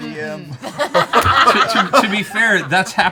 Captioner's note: laughter